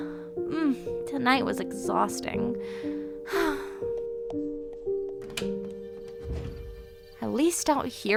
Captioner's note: sighs